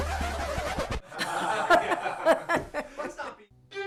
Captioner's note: all laughing